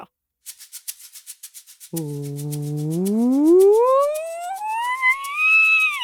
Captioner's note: maraca shakes; does a vocal siren